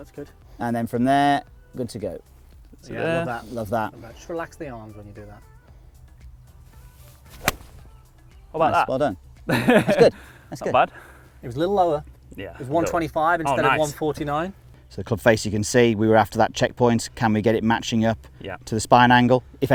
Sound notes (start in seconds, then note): 7.2 golf ball hits; 9.5 laughs